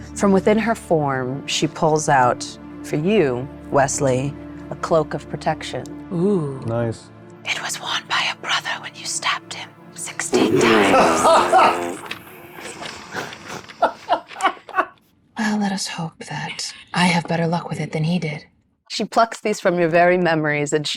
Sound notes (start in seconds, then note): 10.4 sighing; 10.4 chuckling